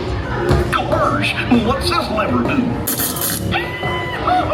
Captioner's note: bright music; lever buzzes; Goofy hollers